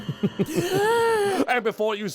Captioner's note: chuckles; gaaaaasp!